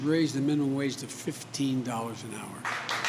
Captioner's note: applause